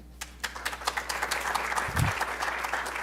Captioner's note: applause